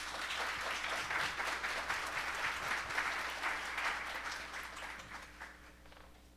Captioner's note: applause